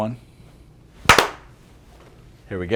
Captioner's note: clap